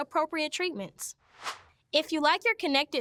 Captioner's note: air whooshes